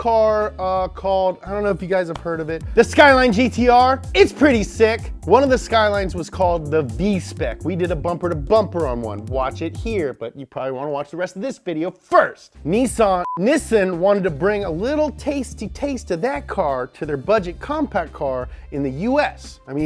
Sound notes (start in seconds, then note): none